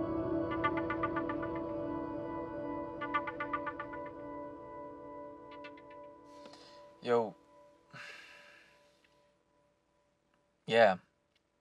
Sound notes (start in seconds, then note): 0.3 phone ringing; 7.9 inhales; 7.9 exhales